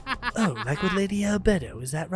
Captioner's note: player cackling